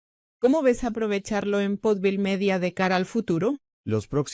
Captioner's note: speaking Spanish